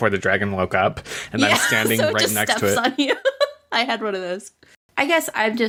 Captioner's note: laughs